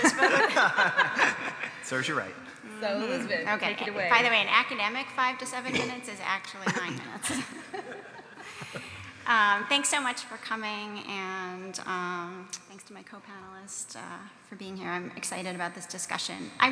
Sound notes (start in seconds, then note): 2.1 panel laughs; 6.6 laughs; 8.2 audience laughs